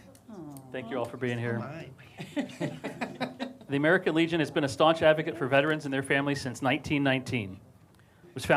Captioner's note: laughter